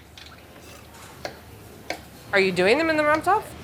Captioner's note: knife taps